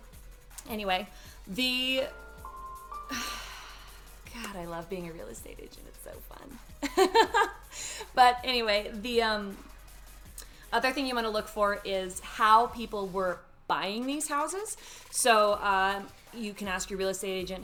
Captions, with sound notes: Anyway, the- (phone notification beeps) (sighs) God, I love being a real estate agent. It's so fun. (laughs) But anyway, the other thing you wanna look for is how people were buying these houses. So you can ask your real estate agent,